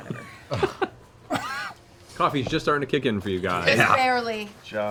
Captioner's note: laughs